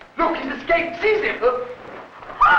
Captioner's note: females shriek